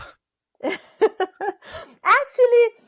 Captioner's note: laughs